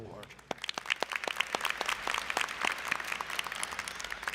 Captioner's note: applause